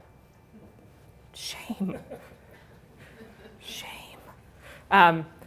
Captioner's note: whispered